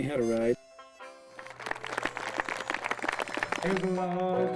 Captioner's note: clapping